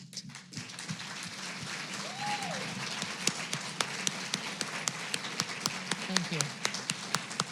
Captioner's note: applause